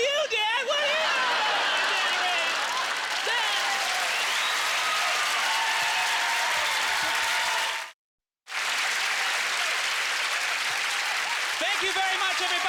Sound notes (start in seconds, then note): 2.3 audience laughter; 4.1 cheers and applause